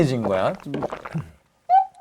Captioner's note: chugging